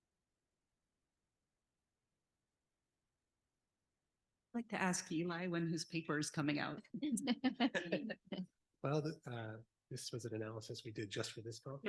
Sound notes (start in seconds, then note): 7.5 laughs